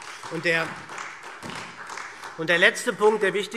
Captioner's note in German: Beifall SPD